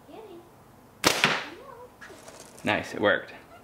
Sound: thwack

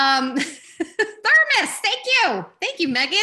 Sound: laughs

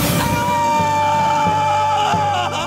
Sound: screaming

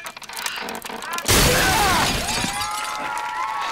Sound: screaming

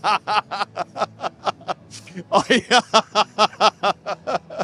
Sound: laughs

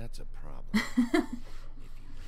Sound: chuckles

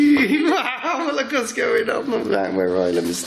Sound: laughs

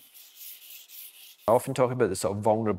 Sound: charcoal rubbing

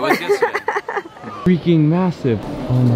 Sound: laughs

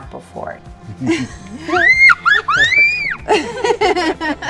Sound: laughing

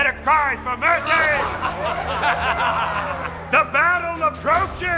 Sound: cheering; laughter

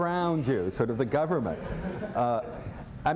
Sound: laughter

